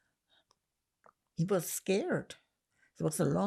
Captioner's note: none